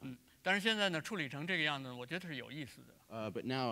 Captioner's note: speaking in Chinese